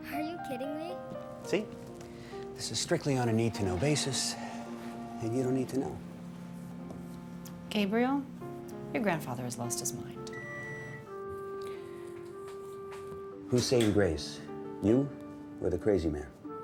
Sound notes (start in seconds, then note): 10.2 alarm dings